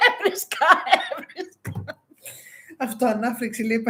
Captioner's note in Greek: γέλια